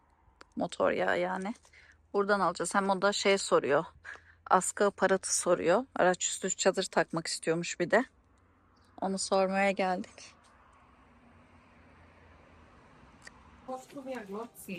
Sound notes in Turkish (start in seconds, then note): none